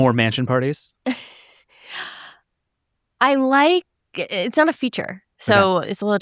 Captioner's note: chuckles